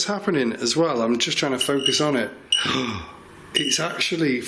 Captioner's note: gasps